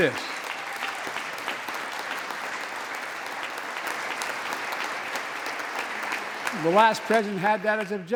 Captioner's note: applause